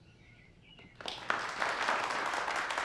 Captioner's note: applause